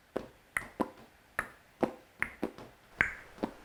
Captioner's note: hums